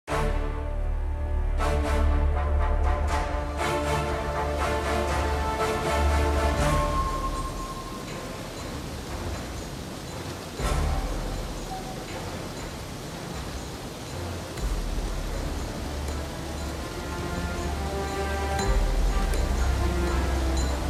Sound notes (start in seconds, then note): 0.1 mysterious music; 6.0 water rushing